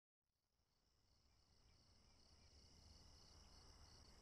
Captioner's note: crickets chirp